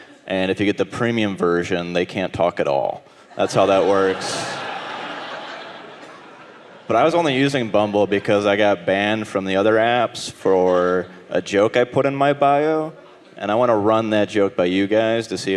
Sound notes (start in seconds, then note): 5.1 audience laughing